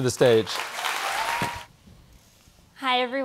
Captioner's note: audience applauds